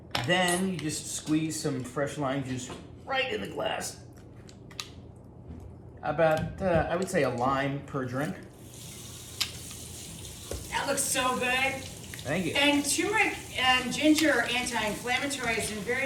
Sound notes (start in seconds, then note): 8.4 water running